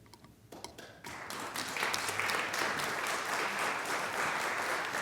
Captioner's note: applause